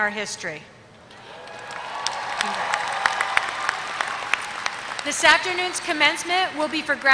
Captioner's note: applause